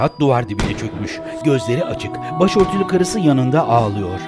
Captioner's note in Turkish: Silah sesleri